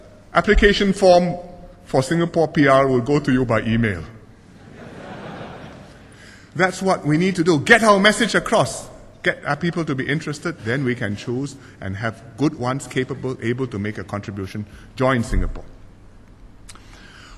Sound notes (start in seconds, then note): 4.4 laughter